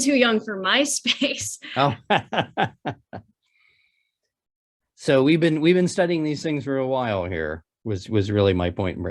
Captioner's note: laughs